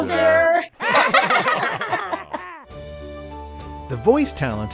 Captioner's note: laughter